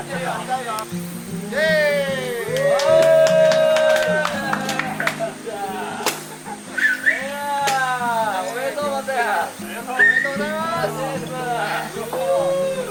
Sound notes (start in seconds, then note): 2.4 applause